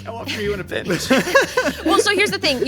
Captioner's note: laughing